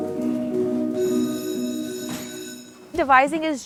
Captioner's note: sound of a school bell rings